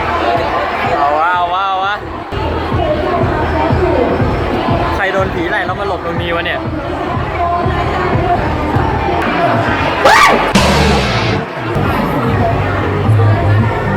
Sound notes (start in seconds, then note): 10.0 scream